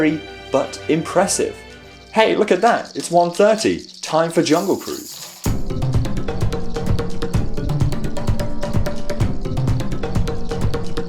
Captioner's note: alarm goes that